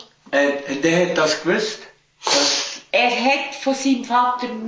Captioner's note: speaking Swiss German